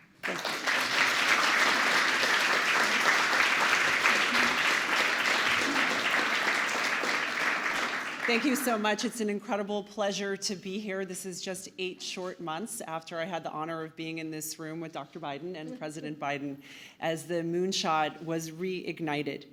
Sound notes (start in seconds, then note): 5.6 applause